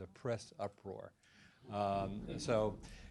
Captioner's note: laughter